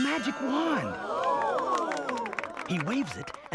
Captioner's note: gasping